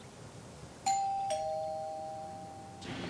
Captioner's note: doorbell rings